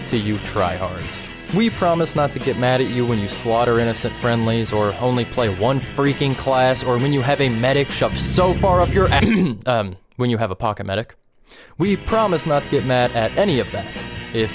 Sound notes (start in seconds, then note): 9.2 ahem